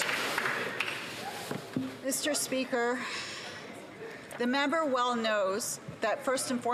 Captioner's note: some Applause